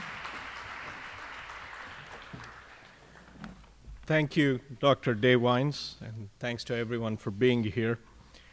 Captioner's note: applause